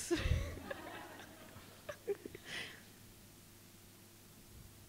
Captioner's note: audience laughs